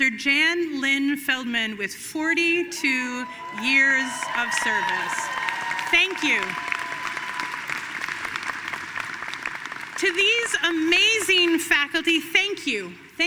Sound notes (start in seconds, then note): 5.1 audience cheering and applauding